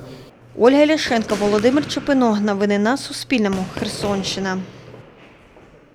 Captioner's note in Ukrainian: удари по боксерським лапам